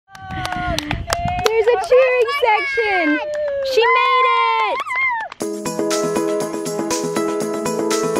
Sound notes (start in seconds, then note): 0.2 cheering; 5.4 bright music